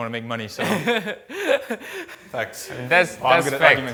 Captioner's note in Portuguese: risos